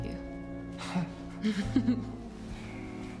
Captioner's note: laughs